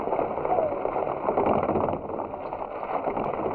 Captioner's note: horses galloping